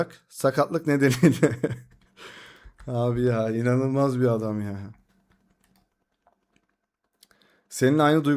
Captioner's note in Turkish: kahkaha